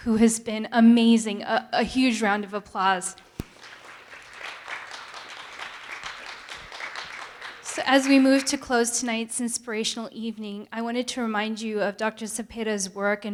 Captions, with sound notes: who has been amazing, a huge round of applause. (audience applauding) So as we move to close tonight's inspirational evening, I wanted to remind you of Dr. Zepeda's work